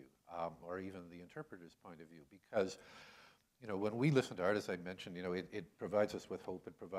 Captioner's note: none